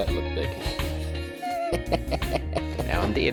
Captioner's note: laughter